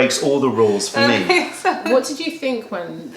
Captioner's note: laughter